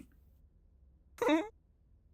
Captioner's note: nervous whimper